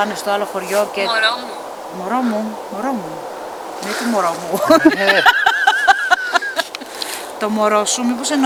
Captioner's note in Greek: γέλια